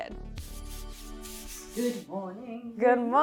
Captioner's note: roller swishing